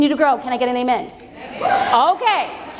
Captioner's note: crowd cheers